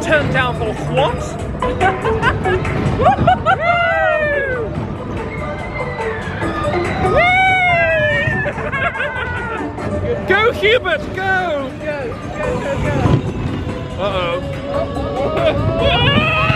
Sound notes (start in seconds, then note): 2.9 laughing; 8.0 both laughing